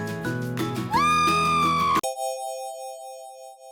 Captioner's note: scream